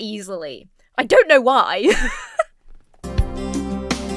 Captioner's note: Emma laughs